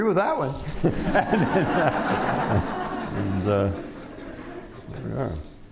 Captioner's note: laughter